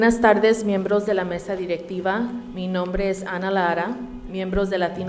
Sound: speaking in Spanish

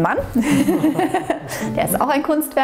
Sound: laughter

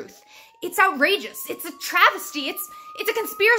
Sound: distant sirens

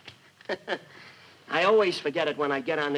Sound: laughing

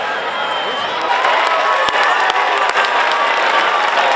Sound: crowd clapping

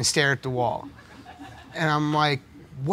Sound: audience laughing

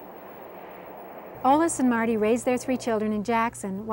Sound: voiceover

